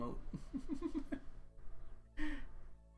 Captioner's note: laughs